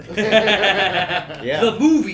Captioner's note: laughter